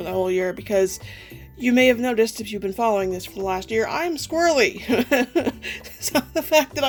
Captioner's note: laughs